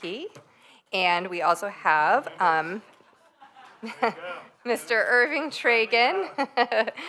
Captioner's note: laughter